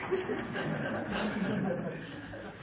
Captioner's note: laughter